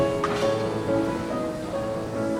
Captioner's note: buffers clang